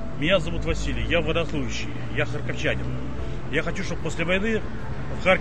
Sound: speaking Ukrainian

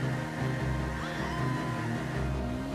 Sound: bystander screaming

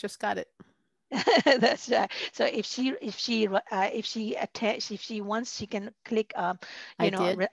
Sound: laughter

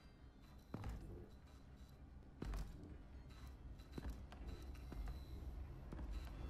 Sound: loud footsteps and light whirring

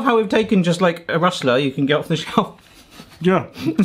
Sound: chuckles

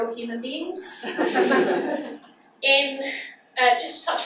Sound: audience laughs

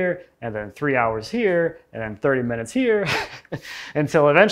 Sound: laughs

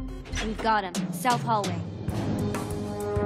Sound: none

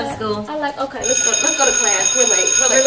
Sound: bell ringing

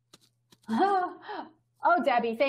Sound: laughs

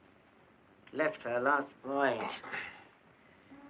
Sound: Bob wincing in pain

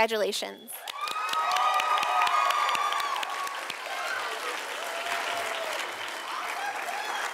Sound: sound of applause and cheering from audience

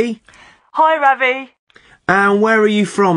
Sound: on phone

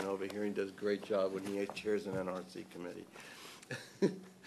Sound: laughter

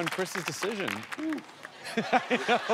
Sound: laughter

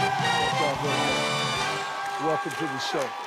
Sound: theme music playing; audience cheering

